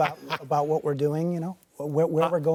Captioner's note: laughter